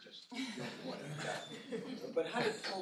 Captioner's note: laughter